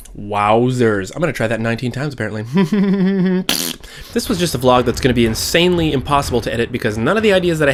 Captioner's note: giggle